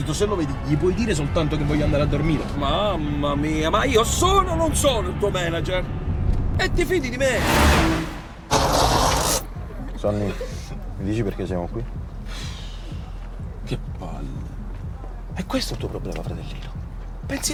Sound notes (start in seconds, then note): 7.2 car engine stops